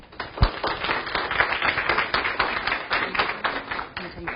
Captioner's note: audience applause